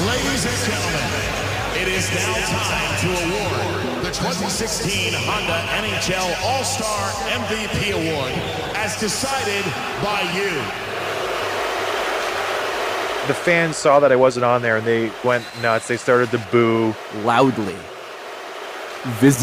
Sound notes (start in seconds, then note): 11.7 crowd boos